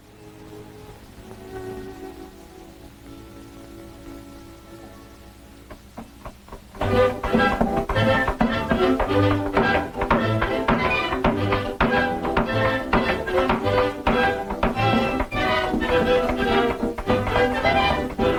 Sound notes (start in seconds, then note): 6.9 hammer tapping; 6.9 lively cheerful music